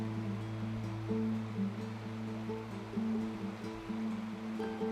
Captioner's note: river flowing sound